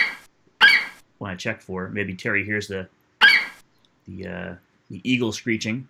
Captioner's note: FlightCheck eagle screeches; FlightCheck eagle screeches; FlightCheck eagle screeches